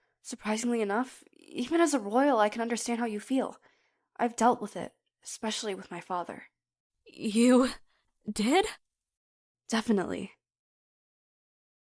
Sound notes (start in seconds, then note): none